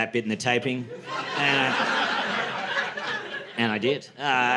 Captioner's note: laughter